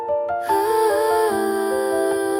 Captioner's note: humming